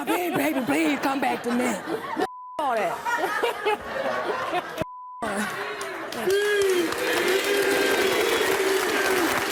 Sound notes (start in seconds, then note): 5.5 cheering